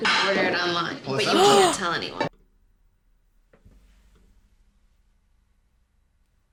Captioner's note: gasp